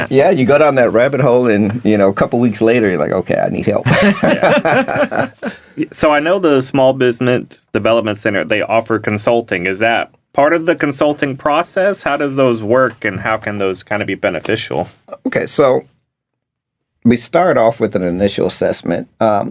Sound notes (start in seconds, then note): 3.8 all laughing